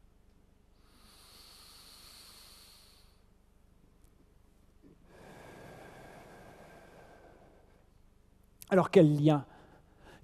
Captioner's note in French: longue respiration collective